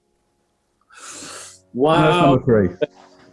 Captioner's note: sharp intake of breath